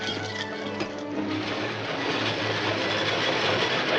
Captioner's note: train rumbling